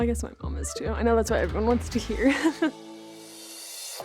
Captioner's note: laughs